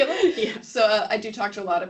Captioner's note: laughing